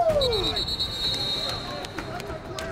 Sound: whistle

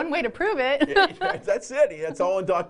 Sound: laughter

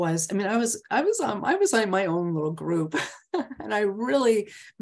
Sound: laughs

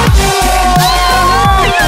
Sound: cheers loudly

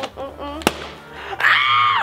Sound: popping

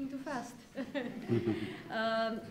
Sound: laughter

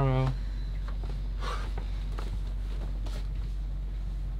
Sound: exhales

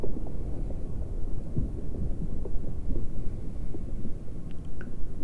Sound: crumbling sound FX

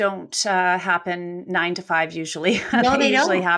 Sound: laughs

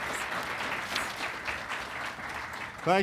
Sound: applause

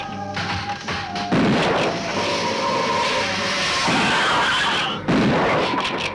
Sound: Gila monster hissing; gun firing

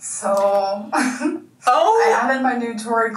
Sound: laughs

